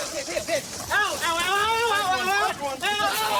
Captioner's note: screaming